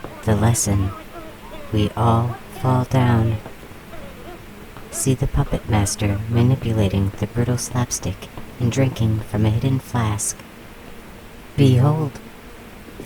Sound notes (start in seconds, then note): 6.9 the scene goes quiet, save some lazy *whacks